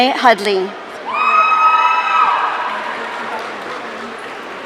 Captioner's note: audience cheering